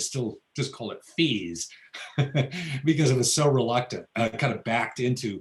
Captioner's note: laughs